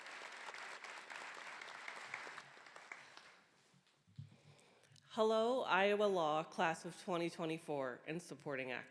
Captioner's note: applause